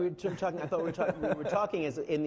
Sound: laughing

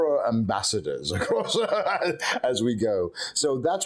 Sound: laughing

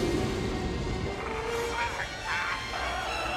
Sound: moaning

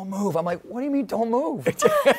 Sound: laughter

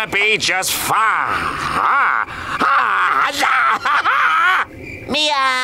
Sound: shrieking

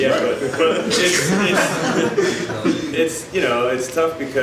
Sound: audience laughs

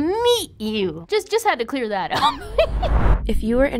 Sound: giggles

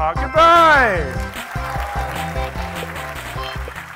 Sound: applauding

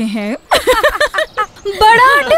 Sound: laughs

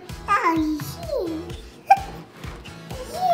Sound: baby cooing

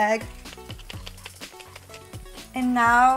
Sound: grinder shaking

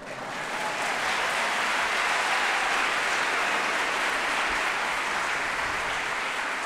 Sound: applause

